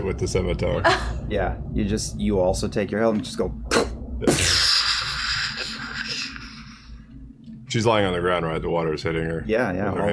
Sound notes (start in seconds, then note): 3.2 glass breaking